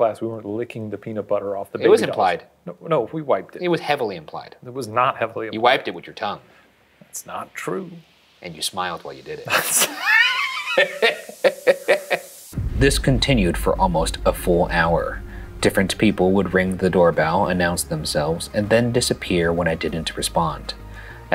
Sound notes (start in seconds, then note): 9.4 laughs